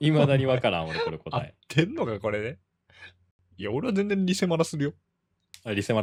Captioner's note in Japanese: 笑い